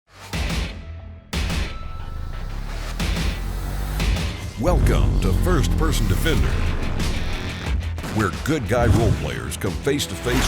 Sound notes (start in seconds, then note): 0.3 intense music; 4.8 voiceover